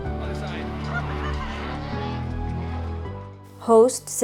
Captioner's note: laughs; gentle music